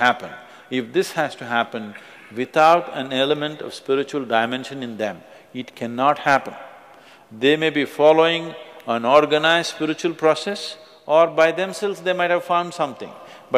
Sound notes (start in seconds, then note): none